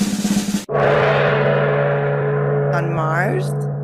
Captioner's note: drum roll; gong